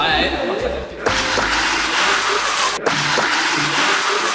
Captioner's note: Pistol air menyemprot